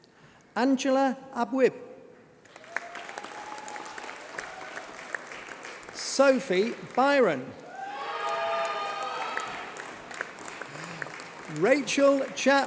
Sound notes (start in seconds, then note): 2.4 applause